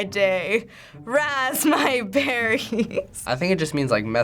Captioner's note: laughing